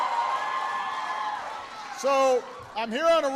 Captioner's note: applause